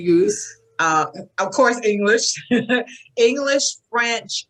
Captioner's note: laughs